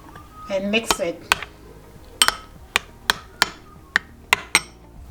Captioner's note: spoon clanging